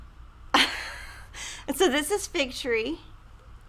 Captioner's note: laughs